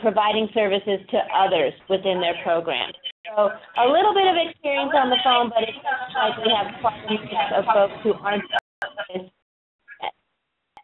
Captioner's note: audio interference